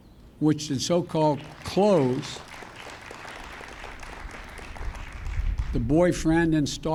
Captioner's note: applause